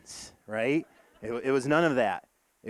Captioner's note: audience laughing